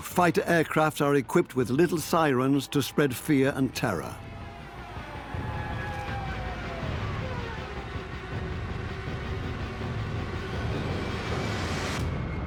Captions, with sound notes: In World War II, fighter aircrs are equipped with sirens to spread fear and terror. (wailing)